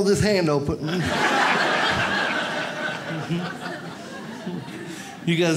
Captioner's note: audience laughs